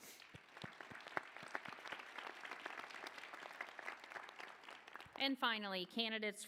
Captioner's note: applause